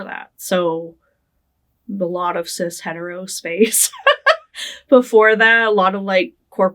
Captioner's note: laughing